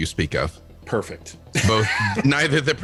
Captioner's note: laughs